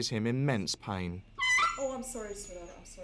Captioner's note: dog yelps